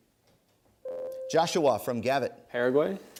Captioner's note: ding